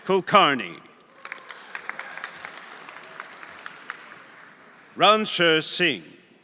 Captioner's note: audience applauding; audience cheering